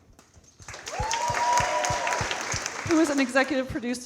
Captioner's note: audience cheering and clapping